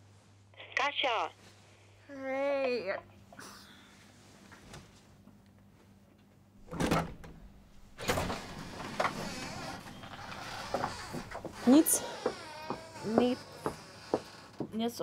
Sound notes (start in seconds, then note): 7.9 door opens